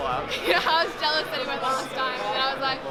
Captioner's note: chuckles